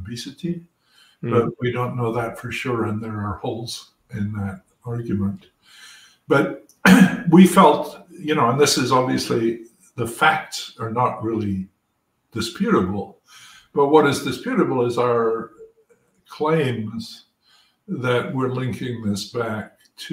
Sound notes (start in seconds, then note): 6.8 cough